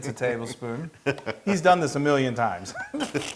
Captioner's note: laugh; laugh